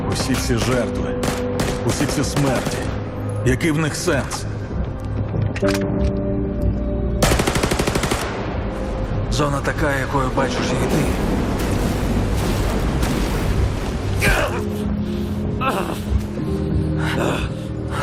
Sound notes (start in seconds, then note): 0.2 speaking Ukrainian; 11.8 storm howling; 15.5 groaning